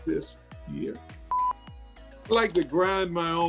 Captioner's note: beep